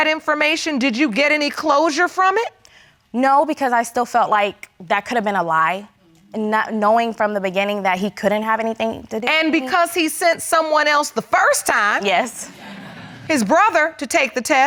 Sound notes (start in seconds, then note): 12.5 laughs